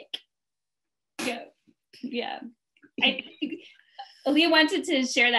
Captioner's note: laughing